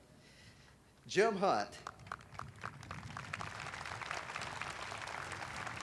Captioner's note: audience applauding